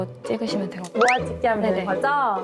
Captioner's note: good-at-answering sound effect